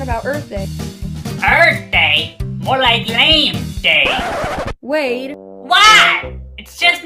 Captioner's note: shouts